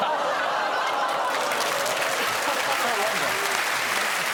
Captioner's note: audience laughing and clapping